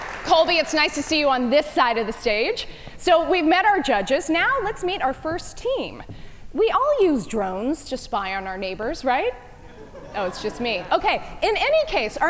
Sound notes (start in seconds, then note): 9.6 audience chuckle